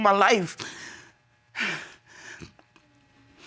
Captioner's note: sniffles